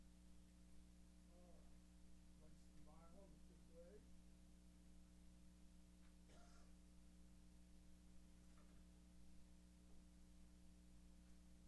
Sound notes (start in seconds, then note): 1.4 chatter